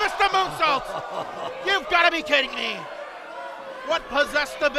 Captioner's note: chuckles